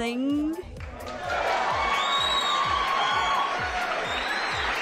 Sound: crowd cheers, club music slowly fades

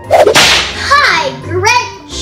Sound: whip cracks

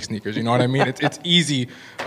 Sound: laughing

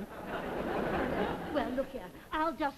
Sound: audience laughs

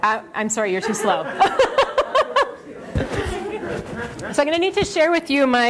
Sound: laughter

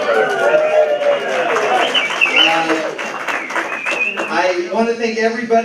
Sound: cheers; applause

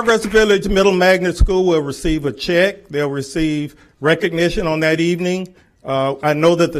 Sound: applause

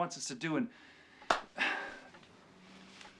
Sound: sighing

